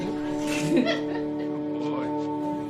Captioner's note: all laugh